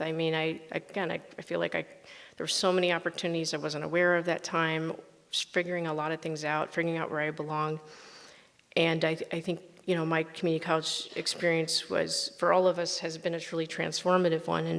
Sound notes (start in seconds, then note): none